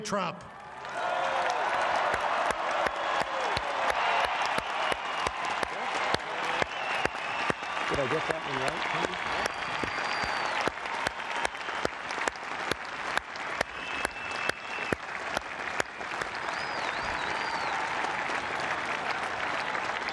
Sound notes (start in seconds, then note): 4.3 cheering; 10.9 applause